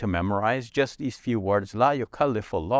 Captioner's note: speaks verse in Arabic